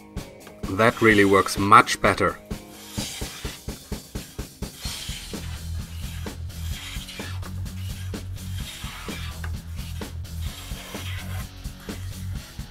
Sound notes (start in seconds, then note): 0.4 tapping; 8.2 scratching